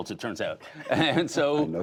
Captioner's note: laughter